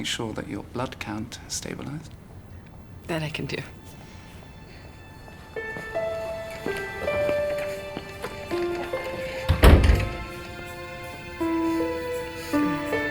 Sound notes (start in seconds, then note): 5.1 gentle music; 9.1 door clicking